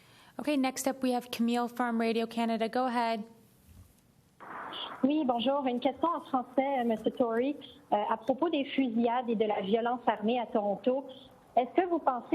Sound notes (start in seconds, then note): 6.9 French spoken